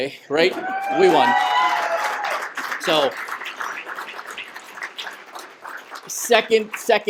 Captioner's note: cheers and applause